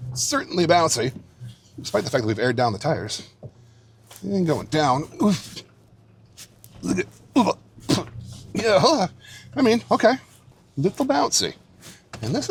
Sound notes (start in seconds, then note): 7.3 grunting